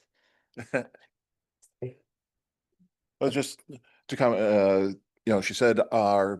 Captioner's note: chuckles